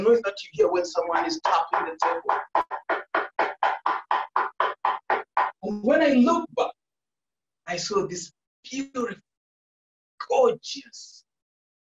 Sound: taps on table

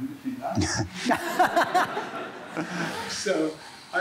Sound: laughter

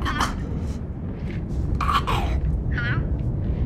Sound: strained grunting

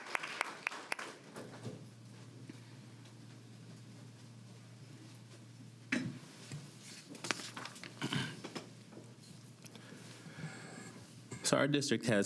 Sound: applause

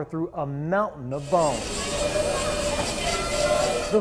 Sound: machine whirring

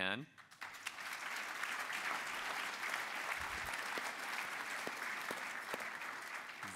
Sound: applause

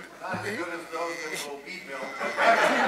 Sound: man speaking off mic; laughter continues

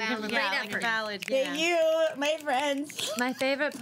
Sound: girls snapping

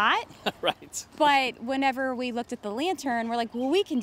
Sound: laughs

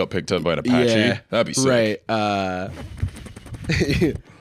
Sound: imitating propeller

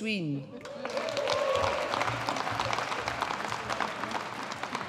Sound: audience applauding

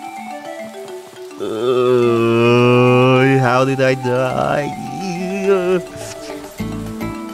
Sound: grunts of pain and suffering

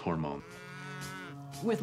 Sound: cow moos

